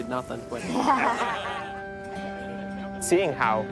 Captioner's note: laughing